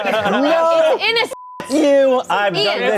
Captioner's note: everyone laughing; beep